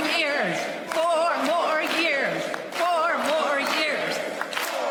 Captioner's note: applause